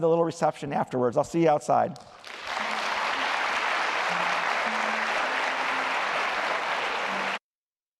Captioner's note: applause